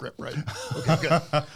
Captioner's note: laughing